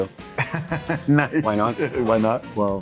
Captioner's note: laughs